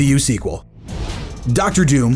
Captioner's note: graphic whooshing